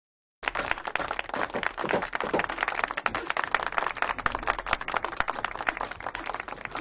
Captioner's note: applause